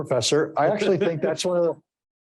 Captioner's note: chuckling